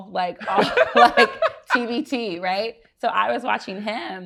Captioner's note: laughs